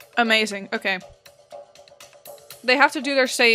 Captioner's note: none